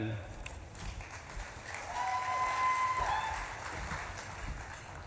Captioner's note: audience claps and cheers